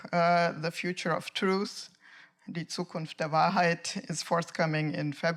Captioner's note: speaking in German